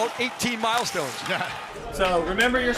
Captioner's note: laughs